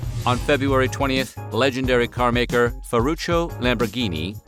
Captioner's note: none